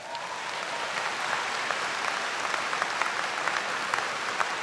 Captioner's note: applause